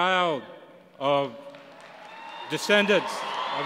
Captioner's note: applause